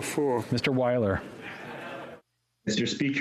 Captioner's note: speaking French